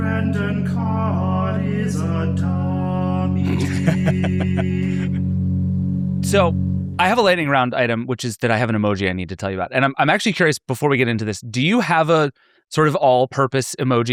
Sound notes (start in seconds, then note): 3.4 laughing